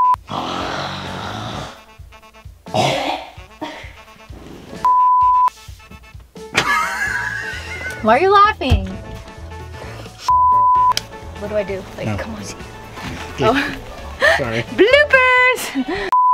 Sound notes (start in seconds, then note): 0.0 beep; 0.2 woman snoring; 3.6 woman coughs, laughing; 4.8 beep; 6.5 man laughing; 10.3 beep; 13.2 laughs